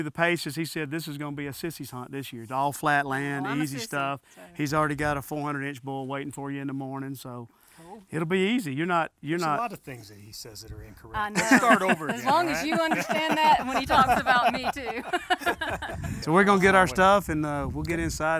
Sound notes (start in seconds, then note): 14.2 everyone laughs